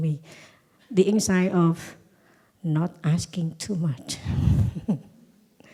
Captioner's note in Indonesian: Suara tertawa